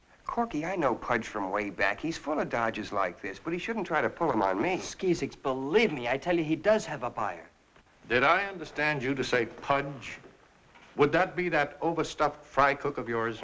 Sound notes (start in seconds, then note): none